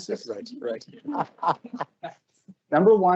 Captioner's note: laughs